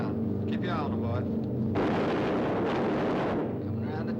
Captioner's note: machine gun shots